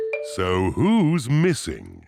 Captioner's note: none